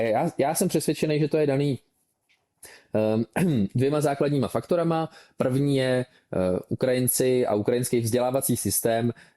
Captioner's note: clears throat